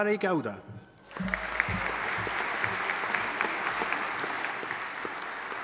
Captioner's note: audience applauding